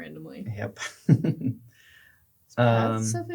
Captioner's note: laughs